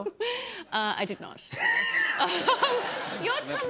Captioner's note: laughter